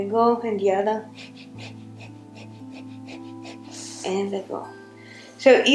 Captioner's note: heavy breathing